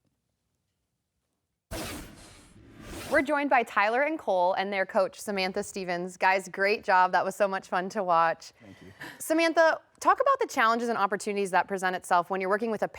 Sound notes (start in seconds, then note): 1.7 transition scrapes